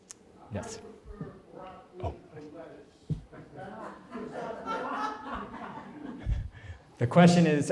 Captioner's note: laughter